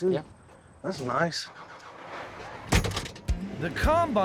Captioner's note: closes door